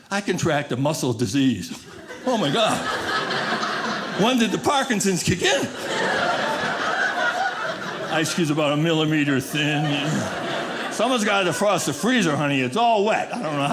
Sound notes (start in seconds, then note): 3.2 audience laughing; 6.0 audience laughing